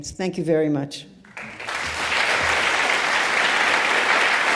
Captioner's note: audience claps